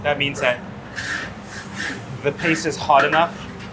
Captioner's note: food sizzling continues